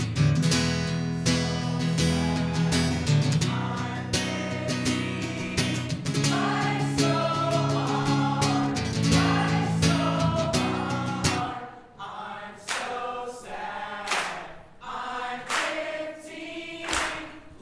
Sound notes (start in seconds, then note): 14.0 clapping